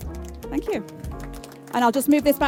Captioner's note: clapping